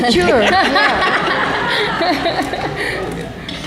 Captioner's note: laughter